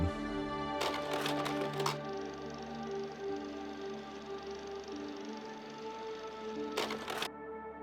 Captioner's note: sound of projector